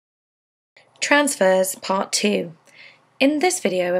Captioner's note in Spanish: Voz en off